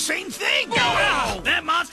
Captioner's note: both grunt